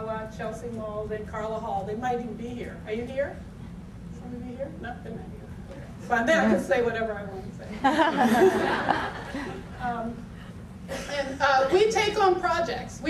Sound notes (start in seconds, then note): 7.8 audience laughter